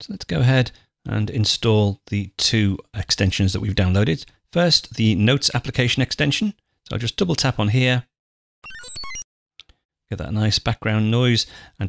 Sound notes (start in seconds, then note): 8.6 digital chiming tone